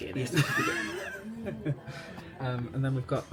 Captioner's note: laughing